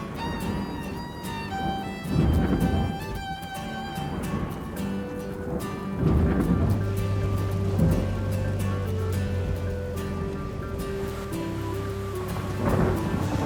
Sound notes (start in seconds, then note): 2.9 thunderstorm